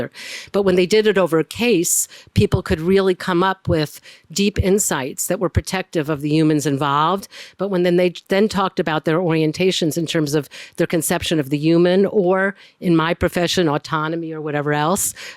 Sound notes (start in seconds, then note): none